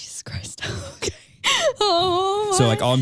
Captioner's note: chuckles